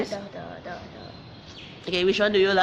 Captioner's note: child mumbling